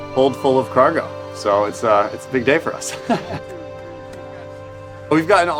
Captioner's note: laughs